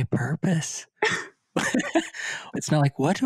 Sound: both chuckles

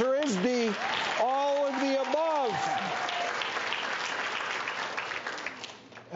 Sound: audience claps

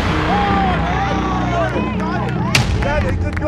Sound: cheering

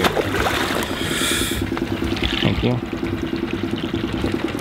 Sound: water splashing

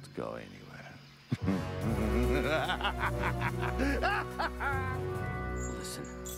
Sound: laughs

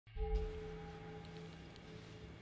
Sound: background sound effects

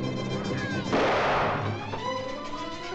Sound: children arguing; suspenseful music; gunshot; dramatic music

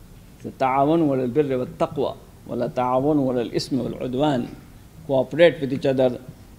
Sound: speaks in a foreign language

